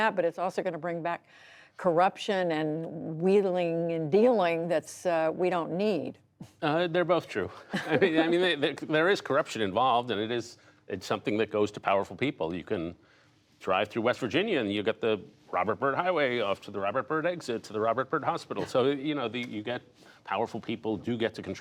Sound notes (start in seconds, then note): 7.5 laughter